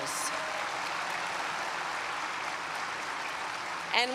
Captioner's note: applause